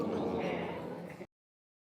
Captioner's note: audience exclaiming